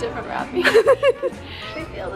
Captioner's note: both laugh